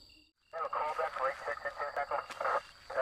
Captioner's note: radio Chatter